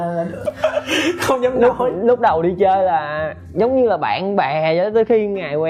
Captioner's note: laugh